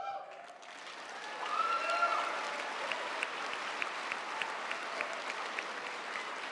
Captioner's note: audience cheering; audience applauding